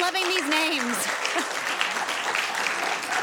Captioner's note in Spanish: aplausos